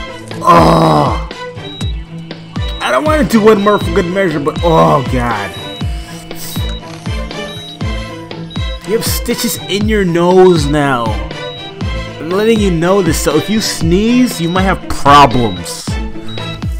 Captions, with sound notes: *groan* I don't want to do one more for good measure but oh god You have stitches in your nose now I'm letting you know this so if you sneeze you might have problems